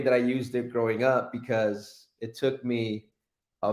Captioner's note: none